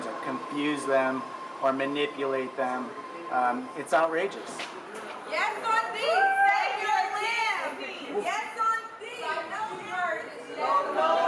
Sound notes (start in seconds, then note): 5.9 protesters chanting